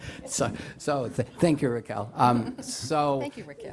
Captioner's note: laughter